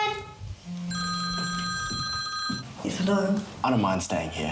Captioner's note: phone continues ringing